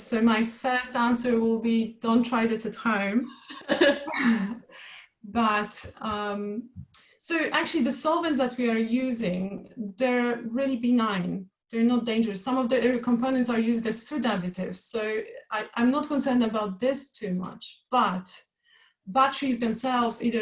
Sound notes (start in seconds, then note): 3.3 both laugh